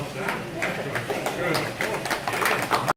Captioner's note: audience applauding